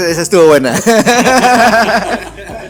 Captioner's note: laughs